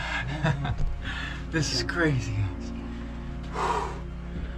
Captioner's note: laughs